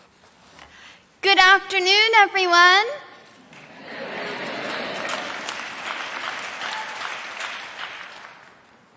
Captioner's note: applause